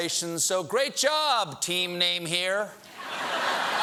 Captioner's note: laughter